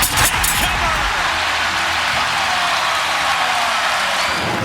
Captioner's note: crowd cheering